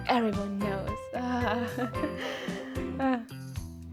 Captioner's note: relaxing breath